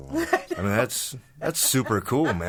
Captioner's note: laughing